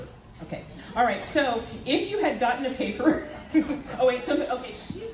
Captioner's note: laughs